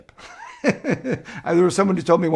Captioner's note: laughs